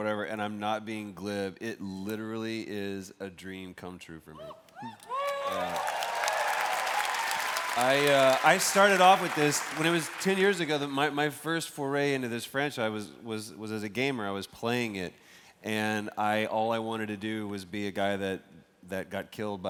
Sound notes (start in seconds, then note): 8.6 cheers and applause